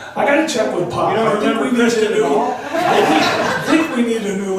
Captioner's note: voiceover; laughs